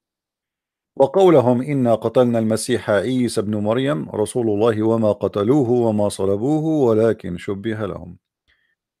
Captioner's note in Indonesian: Dibacakan ayat dalam Qur'an berbahasa Arab